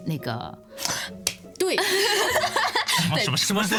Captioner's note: gasp